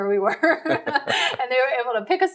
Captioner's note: laughing